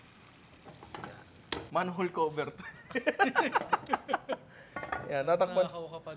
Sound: laughter

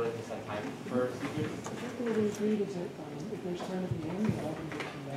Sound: faint chatter

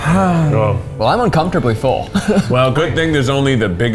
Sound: sighing; laughing

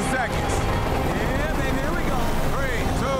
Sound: helicopter rotors thumping

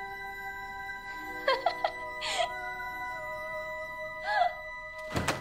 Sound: laughs

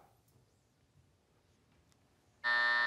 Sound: buzzer

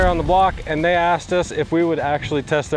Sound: image whooshing

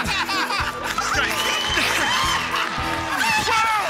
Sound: cheers and applause

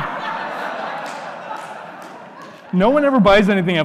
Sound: audience laughing

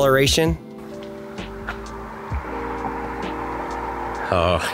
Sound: car whirring

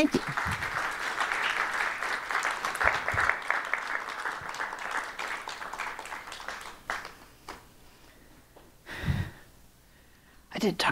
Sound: applause

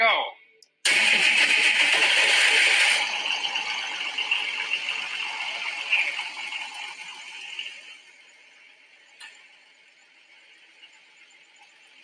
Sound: engine starting and idling

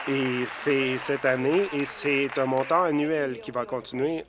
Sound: applause

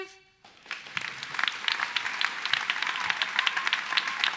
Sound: applause

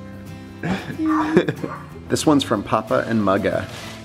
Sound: laughing

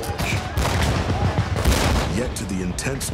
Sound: gunshots

